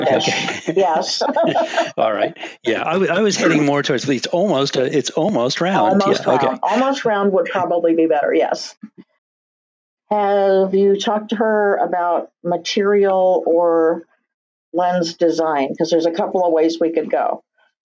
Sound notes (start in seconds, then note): 2.2 laughs